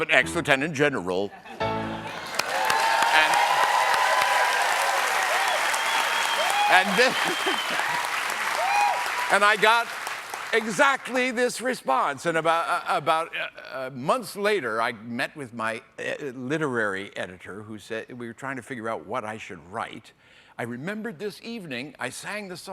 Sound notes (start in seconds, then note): 6.4 applause